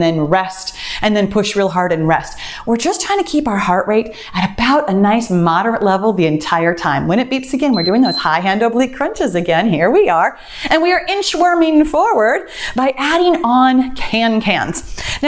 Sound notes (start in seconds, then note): 7.6 timer beeps